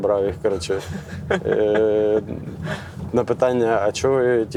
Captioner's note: laugh